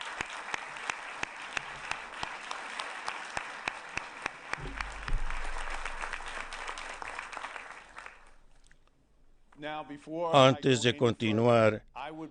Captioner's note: applause